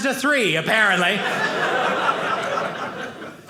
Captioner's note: audience laughing